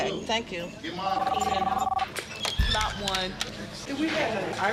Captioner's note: phone ringing